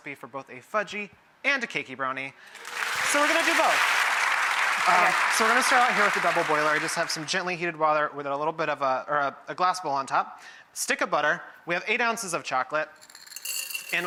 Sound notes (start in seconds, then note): 2.5 audience applauds